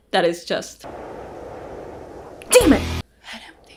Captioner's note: wind blowing